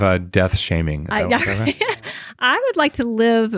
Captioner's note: laughs